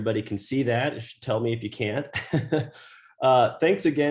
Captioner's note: laughs